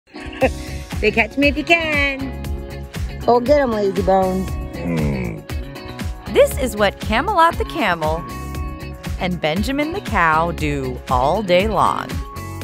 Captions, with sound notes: "Say, 'Catch me if you can!'" "Go get him, lazy bones!" [camel grunting] This is what Camelot the camel and Benjamin the cow do all day long.